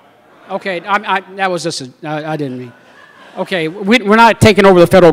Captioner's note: laughter